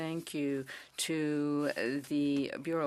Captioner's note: speaking French